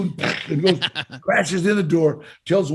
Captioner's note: laughs